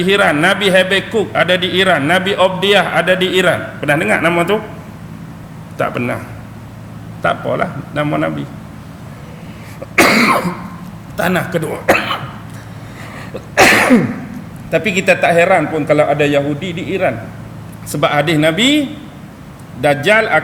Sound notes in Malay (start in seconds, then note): 9.7 berdeham; 9.7 batuk